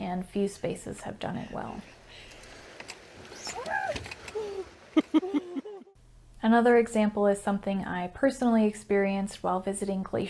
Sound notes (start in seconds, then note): 3.5 yells; 4.9 laugh